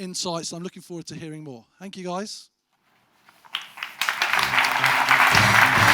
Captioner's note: audience applause